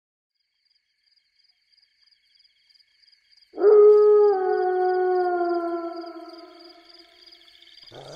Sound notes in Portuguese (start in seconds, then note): 3.6 Lobo uivando